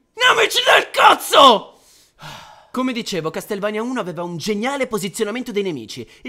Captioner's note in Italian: sospiro